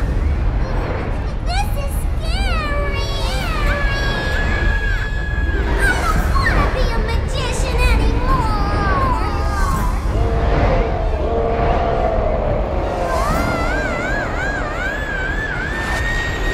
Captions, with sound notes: This is scary! (screams) I don't wanna be a magician anymore! (Reptar roaring) (Angelica screaming)